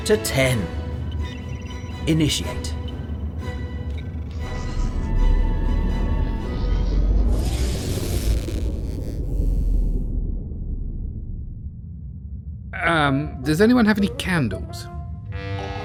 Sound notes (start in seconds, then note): 7.0 powering up noise; 7.3 rapid powering down noise